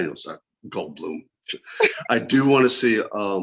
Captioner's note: laughs